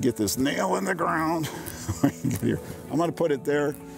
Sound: laughs

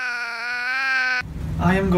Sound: meows

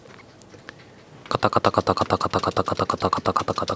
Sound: typing

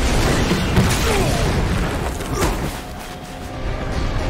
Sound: grunting

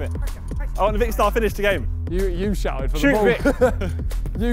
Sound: players clamouring

